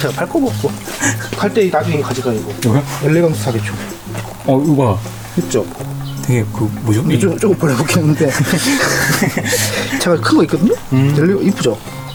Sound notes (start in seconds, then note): 6.1 laughs